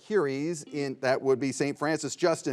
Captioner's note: buzzer beeps